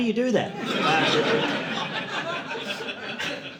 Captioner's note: audience laughing